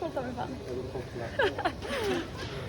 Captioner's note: both laughing